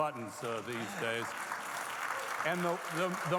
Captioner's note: audience clapping